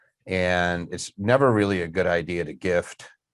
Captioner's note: none